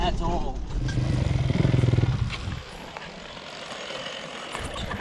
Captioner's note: engine revving